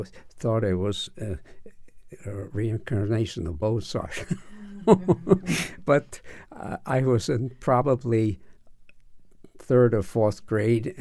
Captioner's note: laughs